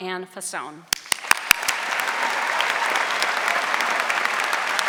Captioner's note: audience applauding